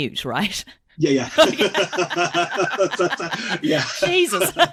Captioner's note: laughs